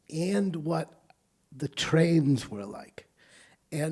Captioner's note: none